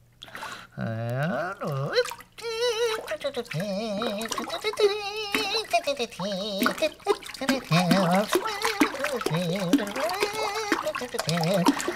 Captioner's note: humming